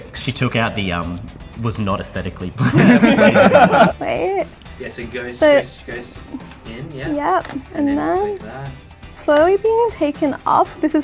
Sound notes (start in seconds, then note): 2.6 all laugh